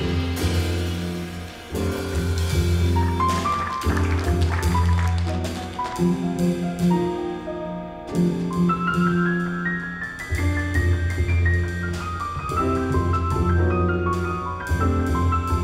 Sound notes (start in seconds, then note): 3.0 audience applauding; 6.6 smooth jazz music